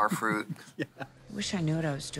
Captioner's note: Katya laughs